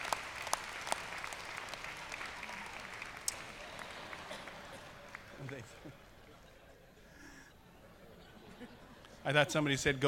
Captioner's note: applause